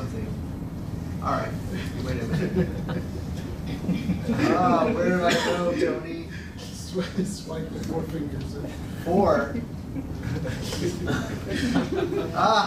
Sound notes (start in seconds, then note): 4.7 laughter